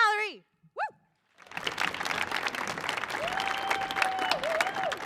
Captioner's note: audience applauding